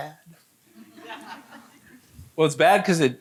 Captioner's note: audience laughing